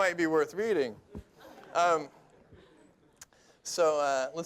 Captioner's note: laughter